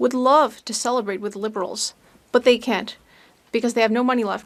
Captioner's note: speaking French